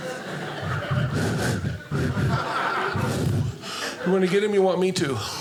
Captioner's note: blowing